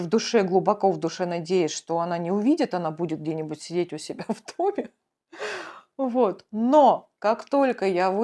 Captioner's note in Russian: тяжело вздыхает